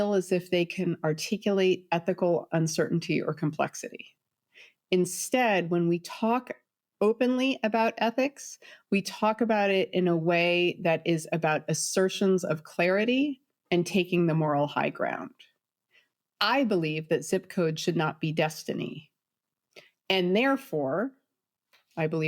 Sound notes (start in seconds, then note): none